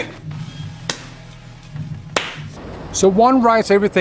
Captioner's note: claps